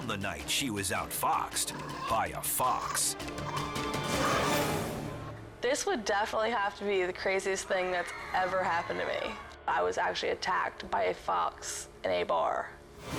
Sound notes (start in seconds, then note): 7.8 patrons screaming